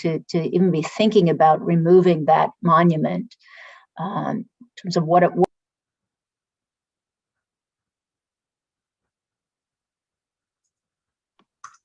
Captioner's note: sound cuts out